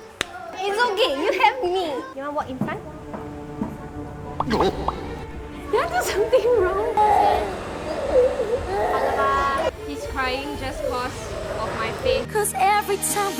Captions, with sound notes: It's ok, you have me! You want walk in front? No. Did I do something wrong? (boy sobbing) He's crying just because of my face.